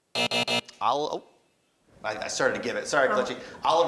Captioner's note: buzzing